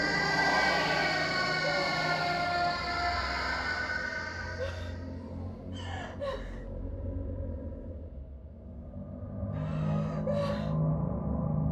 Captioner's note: Sarah sobs